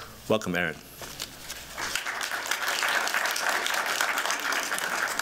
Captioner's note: applause